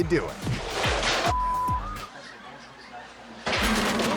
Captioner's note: beep